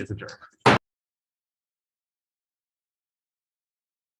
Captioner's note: gavel bangs